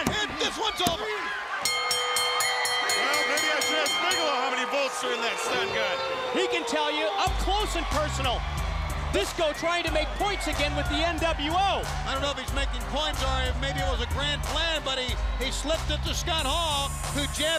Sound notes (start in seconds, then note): 3.8 bell ringing; 5.6 crowd chatter